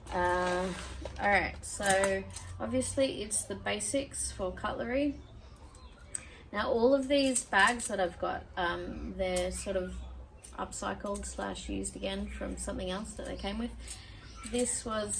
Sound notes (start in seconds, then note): none